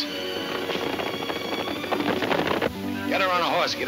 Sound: hooves thundering

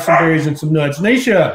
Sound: barking

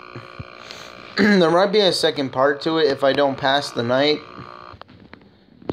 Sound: cough

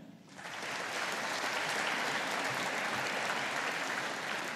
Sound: audience applauding

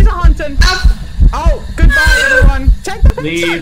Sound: heart beat and breathing continue; heart beat & eerie breathing begin again

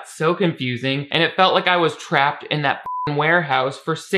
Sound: beep

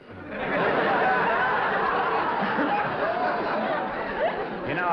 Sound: laughter

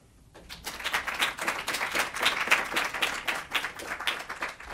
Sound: audience applauds

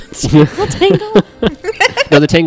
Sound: laugh

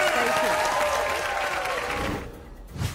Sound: applause

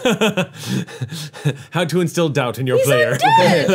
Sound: laughs

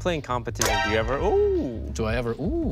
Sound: toaster pops

